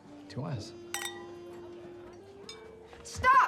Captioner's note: clinking